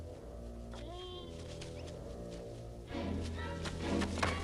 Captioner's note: Beast whines